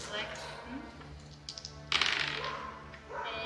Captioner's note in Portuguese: Dados rolando